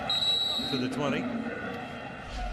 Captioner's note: whistle blows